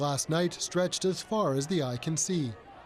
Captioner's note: crowd Noise